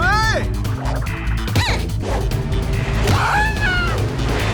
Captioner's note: screams